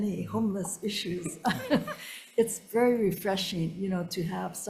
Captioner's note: laughs